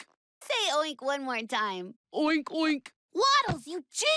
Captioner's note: normal voice; deep voice